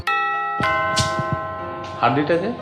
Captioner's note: doorbell